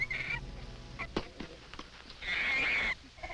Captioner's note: monkey shrieking; fruit thwacking; monkey shrieking